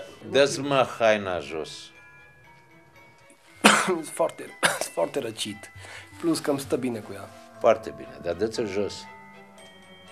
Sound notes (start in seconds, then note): 3.6 cough